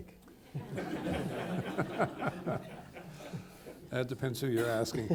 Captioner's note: people laughing